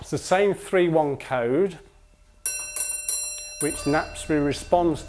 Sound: the bell rings 3-1

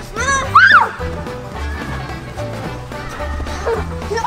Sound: screams

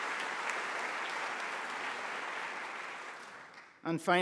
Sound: applause

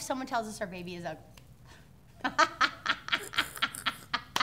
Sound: laughing

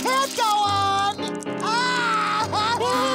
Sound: crying

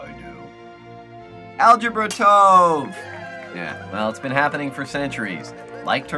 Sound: wine glass shatters

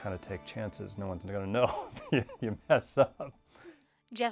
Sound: laughing

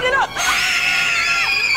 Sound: screaming

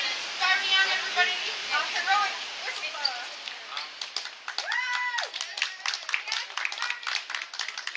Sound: clapps and cheers

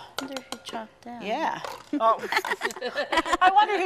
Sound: laughing

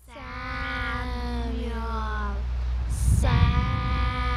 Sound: spooky voices chanting 'Samuel'

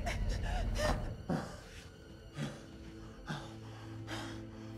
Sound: heavy breathing

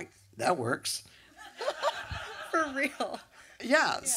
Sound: laughter

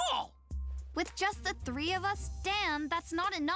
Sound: none

